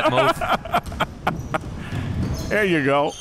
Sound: laughing

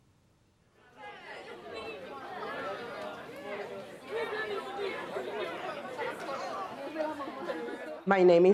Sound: crowd voices

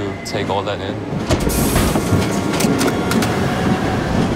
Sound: train rattling

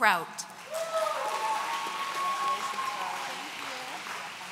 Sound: audience cheering

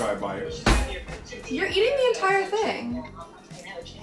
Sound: drawer slams

